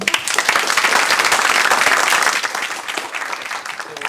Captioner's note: applause